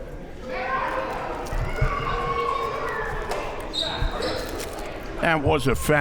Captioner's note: audience clamoring